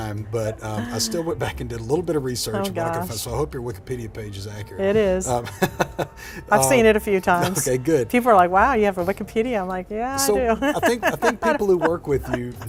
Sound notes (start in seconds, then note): 5.5 laughing